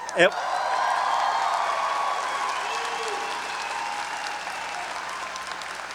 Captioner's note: audience cheering and applauding